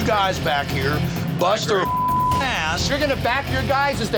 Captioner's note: beep